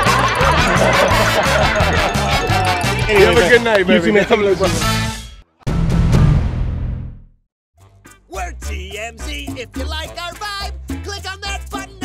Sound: laughter

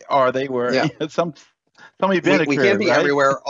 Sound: laughs

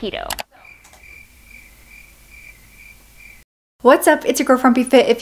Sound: crickets chirping

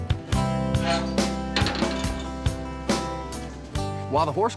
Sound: raising grill lid

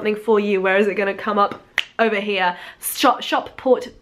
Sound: tongue click

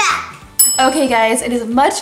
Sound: timer dings

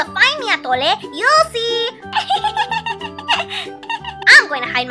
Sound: laughs

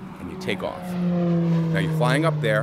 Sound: engines roaring

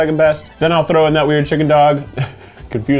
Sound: laughs

